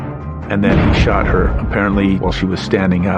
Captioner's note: gunfire blasting